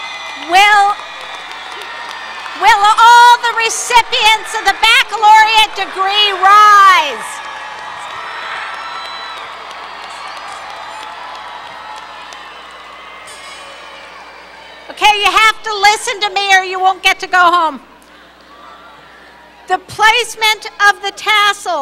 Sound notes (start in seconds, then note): 7.1 cheering, applause